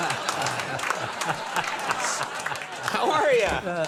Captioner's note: laughing